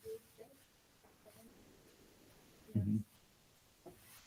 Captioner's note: chattering